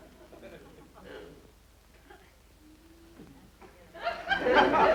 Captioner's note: audience laughter